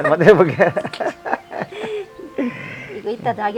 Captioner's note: both laughing